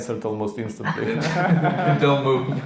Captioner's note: laughing